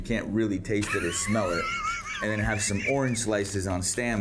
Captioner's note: laughs